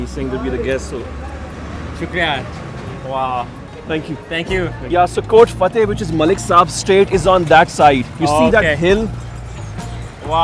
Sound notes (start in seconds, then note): 2.7 speaks foreign language